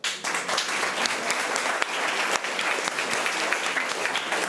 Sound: applause

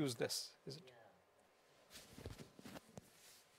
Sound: voiceover

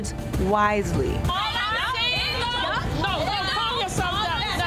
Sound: group arguing

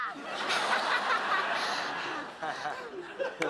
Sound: laughter

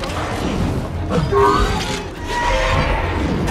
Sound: growling

